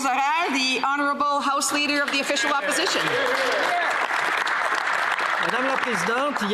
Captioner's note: some Applause